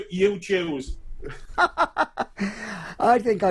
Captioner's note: laughs loudly